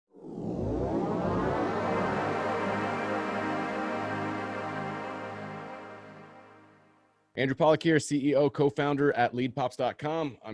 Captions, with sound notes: (logo swooshing) - Andrew Pawlak here, CEO, co-founder at leadpops.com.